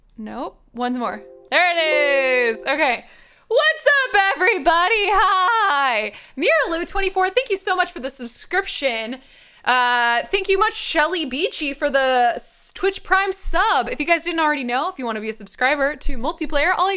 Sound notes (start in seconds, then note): 1.1 computer chiming